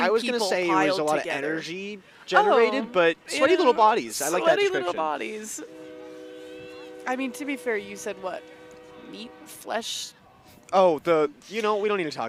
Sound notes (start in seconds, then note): 5.6 horn blows